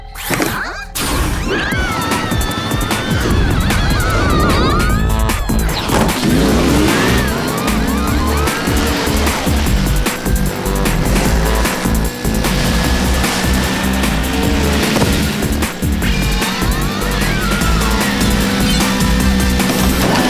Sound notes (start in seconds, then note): 2.3 shrieks; 3.8 hip-hop music; 17.6 screaming